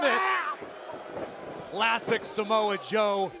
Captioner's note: crowd cheering